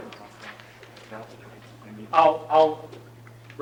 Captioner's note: audience chattering